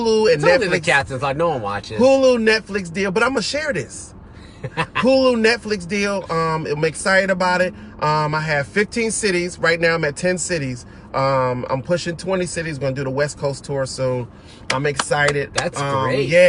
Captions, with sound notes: - Talk to the Captain, there's no one watching this. - Hulu, Netflix deal. But I'mma share this. (laughs) Hulu, Netflix deal, I'm excited about it. I have 15 cities, right now I'm at 10 cities. I'm pushing 20 cities, going to do the west coast tour soon. I'm excited. - That's great.